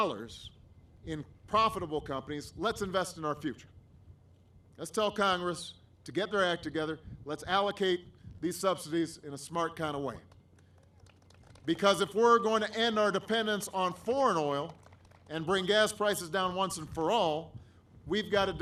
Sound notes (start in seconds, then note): 12.6 applause